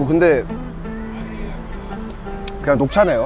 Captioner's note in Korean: 꿀꺽